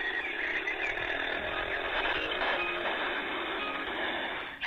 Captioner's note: birds chirping from the audio guide; train rattling from the audio guide